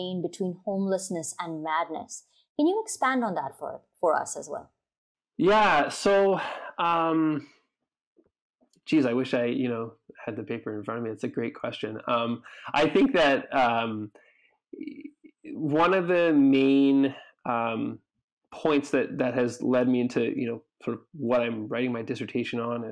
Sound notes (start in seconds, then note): 6.4 outhales loudly